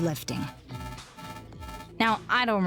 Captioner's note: alarm blaring